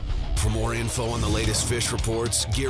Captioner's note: voiceover